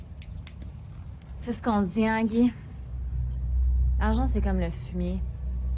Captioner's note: people speaking foreign language